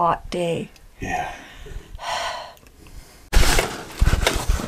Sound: sighs

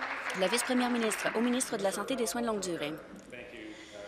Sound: applause

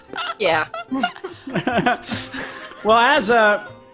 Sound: laughing

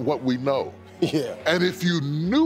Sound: laughs

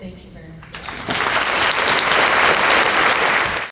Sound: applauding

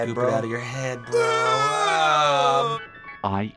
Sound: both groan in disgust

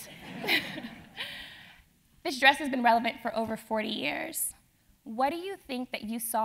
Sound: laugh

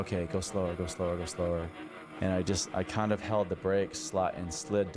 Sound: snowmobile engine revving

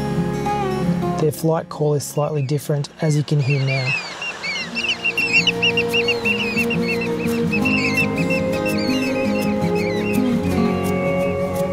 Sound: screeching bird calls

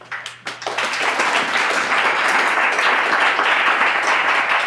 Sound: clapping

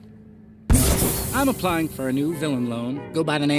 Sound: poof

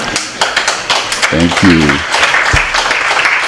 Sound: applause

